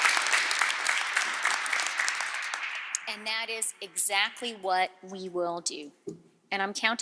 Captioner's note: applause